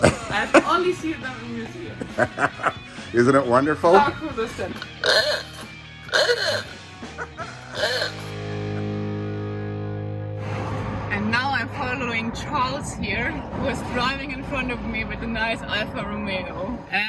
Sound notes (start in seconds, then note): 1.4 laughs; 6.0 horns blaring; 6.0 laughs; 8.2 upbeat music ends